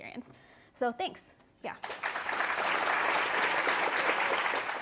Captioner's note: applause